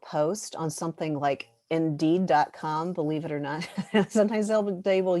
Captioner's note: laughter